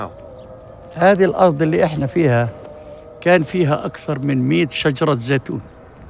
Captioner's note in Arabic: يتحدث لغة أجنبية